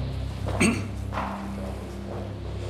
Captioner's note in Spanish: Carraspeo